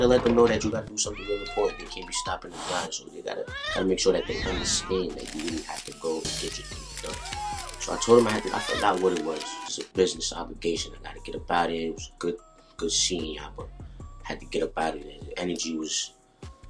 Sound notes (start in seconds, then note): 3.4 cat meows; 4.7 cat growls